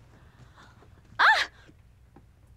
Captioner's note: shouts